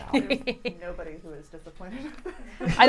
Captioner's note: laughs